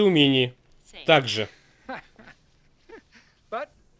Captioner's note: chuckles